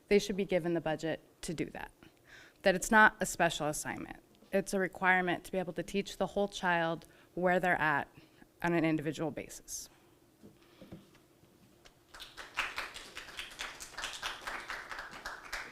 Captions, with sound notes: they should be given the budget to do that. It's not a special assignment. It's a requirement to be able to teach the whole child where they're at on an individual basis. (audience applauding)